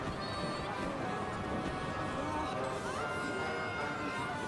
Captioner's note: screams